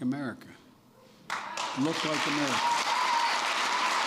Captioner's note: applause